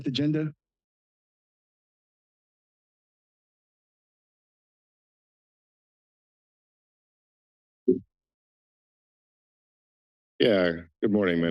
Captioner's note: silence